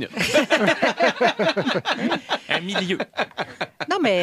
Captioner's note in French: rires